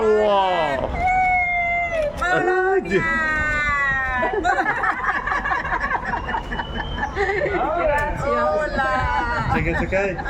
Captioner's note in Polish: śmiech